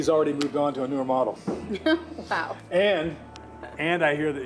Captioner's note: laughs